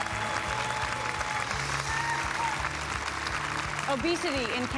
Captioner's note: audience applause